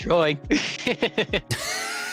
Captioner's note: laughing